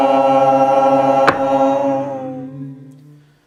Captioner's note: all toning; hammer strike